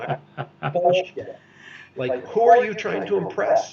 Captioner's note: laughs